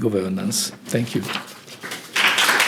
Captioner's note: applause